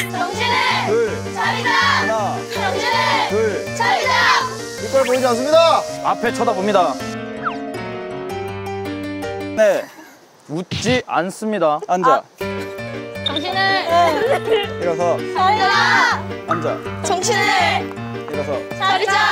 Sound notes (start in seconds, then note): 9.4 laughs